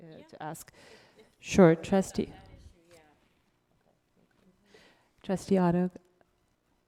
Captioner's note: speaks off microphone